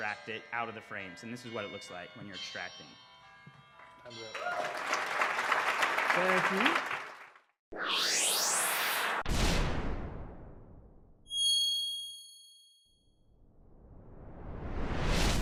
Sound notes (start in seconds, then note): 4.0 bells chiming; 4.1 audience applauding